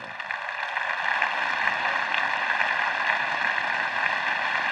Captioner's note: audience applauds